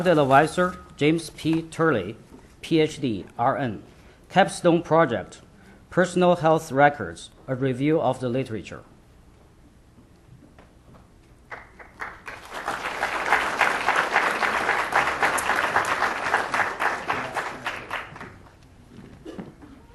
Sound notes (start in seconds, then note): 11.4 applause